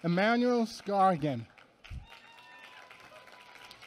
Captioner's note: applause